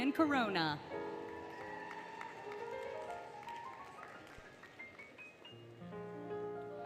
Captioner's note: applause, Cheering, Music